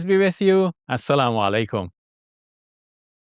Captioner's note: speaks in Arabic